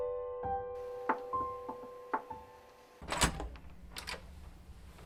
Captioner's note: door opening; knock on door